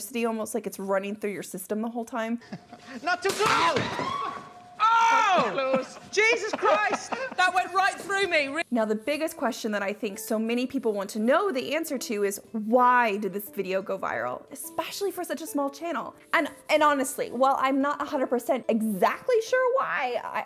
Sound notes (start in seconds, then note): 3.4 electricity zapping; 3.8 screams